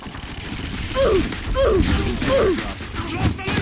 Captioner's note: gun firing